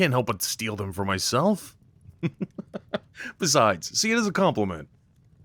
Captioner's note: chuckle